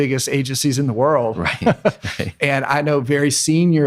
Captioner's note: laughing